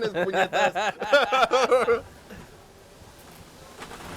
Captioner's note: risas